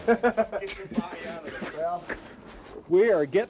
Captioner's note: laughter